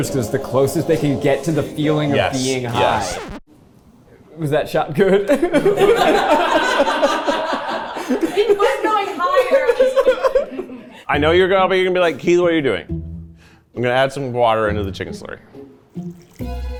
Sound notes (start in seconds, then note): 5.3 all laugh